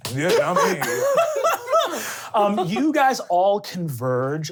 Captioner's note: laughing